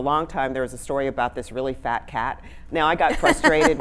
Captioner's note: laughing